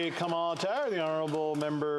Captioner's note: some Applause